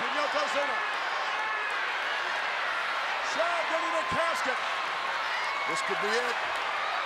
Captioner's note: applause